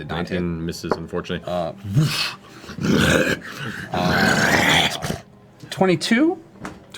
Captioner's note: guttural growling